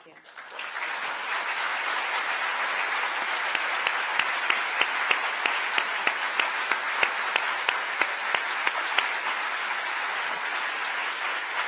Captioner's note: applause